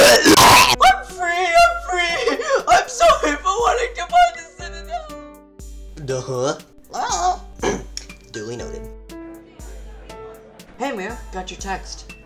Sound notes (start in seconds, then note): 7.5 question noise; 7.6 clears throat; 9.4 bar chatter